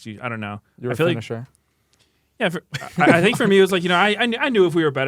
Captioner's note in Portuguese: risos